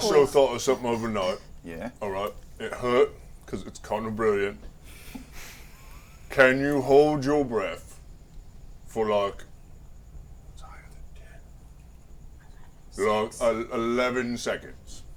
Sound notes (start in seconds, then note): 7.8 whispering